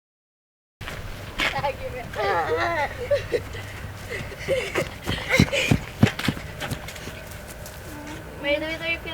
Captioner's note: laughing